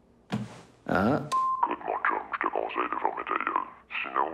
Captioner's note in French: Voix d'homme déformée